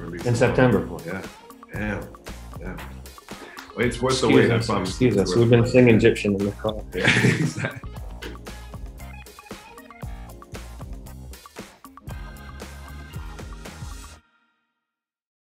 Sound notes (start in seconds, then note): 6.8 laughing; 9.2 upbeat music